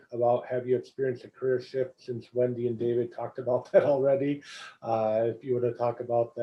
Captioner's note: laugh